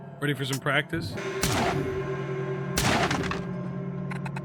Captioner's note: gun firing